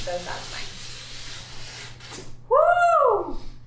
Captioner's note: felt swishing